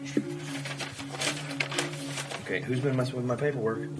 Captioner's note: papers shuffling